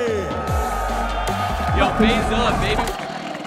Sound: crowd cheering

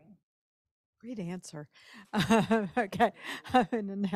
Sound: laughs

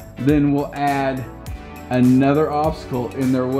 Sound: none

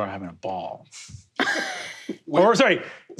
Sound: laughs

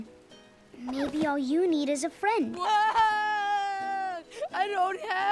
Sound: wailing

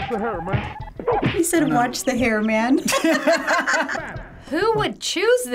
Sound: laughing

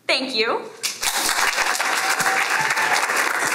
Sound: applause

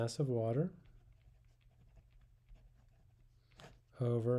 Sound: pen scratching on paper

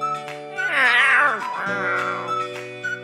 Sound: speaks cat language

